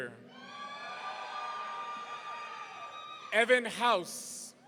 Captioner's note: audience cheering